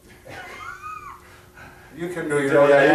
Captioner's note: both laughing